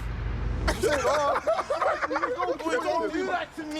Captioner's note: laughing